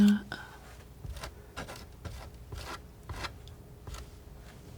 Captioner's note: scratching